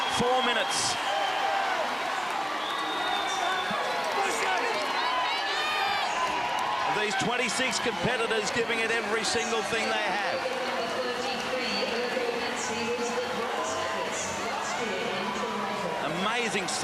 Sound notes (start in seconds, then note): 4.3 all cheer; 11.6 cheering